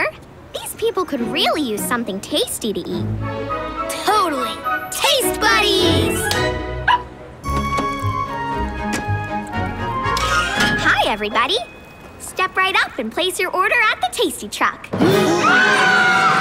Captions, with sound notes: These people could really use something tasty to eat. Totally. Taste Buddies! [barking] Hi, everybody. Step right up and place your order at the Tasty Truck. [gasping and screaming]